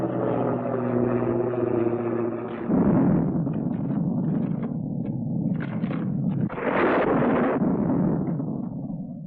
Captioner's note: plane engine